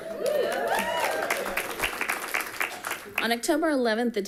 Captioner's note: people cheering and clapping